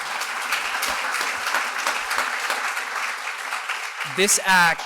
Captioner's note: applause